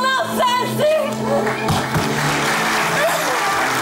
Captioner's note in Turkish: Alkış sesleri